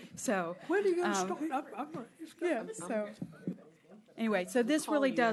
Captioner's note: laughter